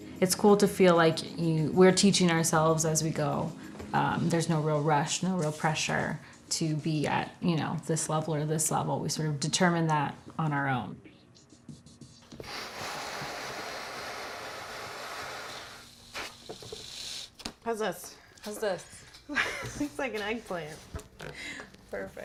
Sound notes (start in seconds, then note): 12.2 blowing balloons; 19.3 laughing